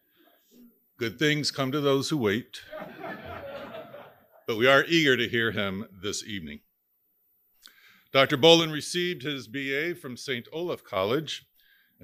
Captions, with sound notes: Good things come to those who wait, (audience laughing) but we are eager to hear him this evening. Dr. Bowlin received his BA from St. Olaf College,